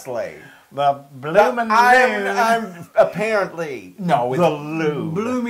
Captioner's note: laugh